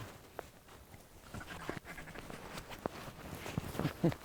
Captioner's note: gear rustling